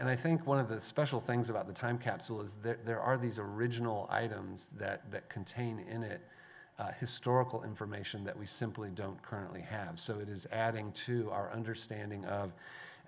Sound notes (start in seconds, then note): none